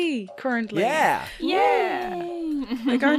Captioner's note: excited noises from all